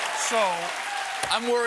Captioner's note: applause